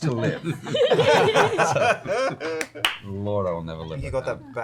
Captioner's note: laughter